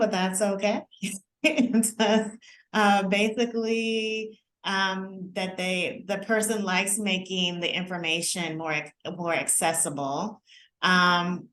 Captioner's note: laughter